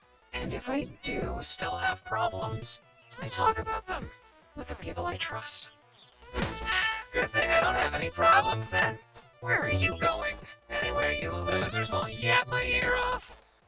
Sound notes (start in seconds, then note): 6.6 sighs